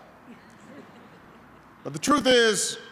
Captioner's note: laughter